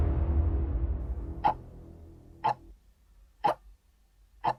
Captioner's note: clock ticking